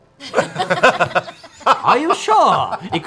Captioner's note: laughter